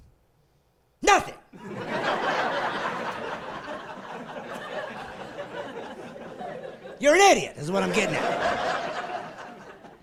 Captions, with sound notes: It's a good age, 16. You know what you know at 16? Nothing! (laughing)